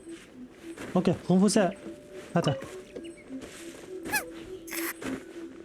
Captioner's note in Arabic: أزيز الهواء